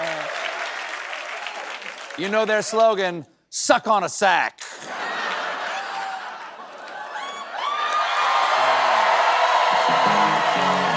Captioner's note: cheering